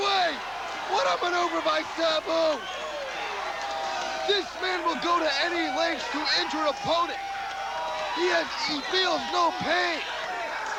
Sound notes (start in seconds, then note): 1.2 crowd cheering